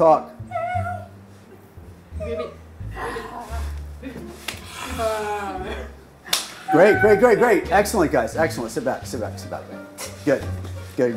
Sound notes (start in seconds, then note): 3.3 assorted animal noises